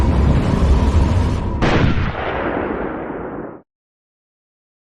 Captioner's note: gunshot echoes